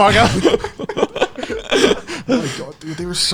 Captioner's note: laughing